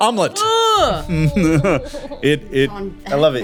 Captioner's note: laughing